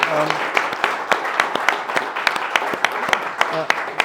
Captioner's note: applause